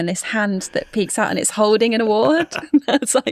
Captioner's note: laughs